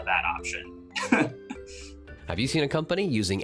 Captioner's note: chuckles